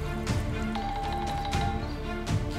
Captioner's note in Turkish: Telefon çalıyor